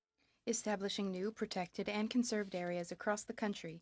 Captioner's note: speaking French